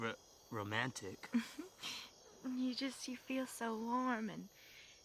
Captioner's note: giggles